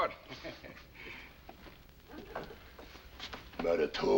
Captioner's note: laughing